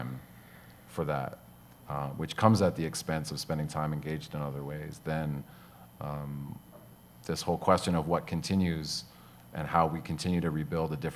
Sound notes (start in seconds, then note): none